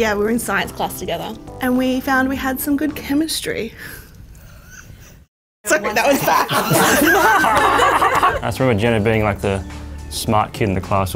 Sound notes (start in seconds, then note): 3.6 laughs; 5.7 all laughing